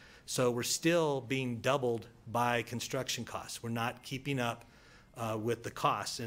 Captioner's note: none